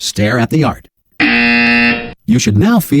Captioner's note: buzzer